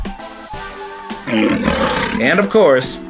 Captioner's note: lion's Roar